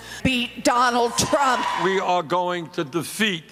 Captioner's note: cheering and applause